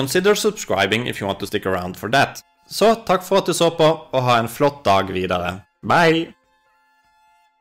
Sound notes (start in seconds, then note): 2.6 in norwegian